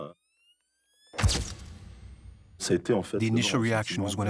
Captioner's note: camera snaps